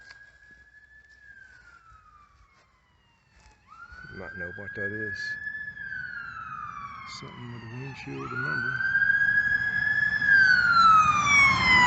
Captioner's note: ambulance coming